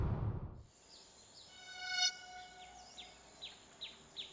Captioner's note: birds chirping